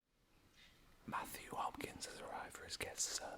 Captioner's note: whispered